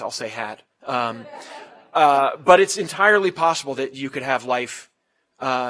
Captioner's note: laugh